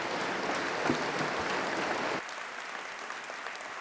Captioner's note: applause